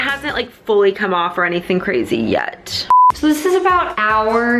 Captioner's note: beeping